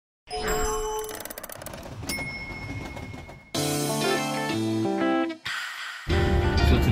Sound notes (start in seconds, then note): 0.3 chimes ringing; 0.6 gears turning; 2.1 bell dinging; 3.6 upbeat music